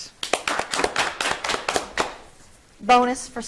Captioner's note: audience clapping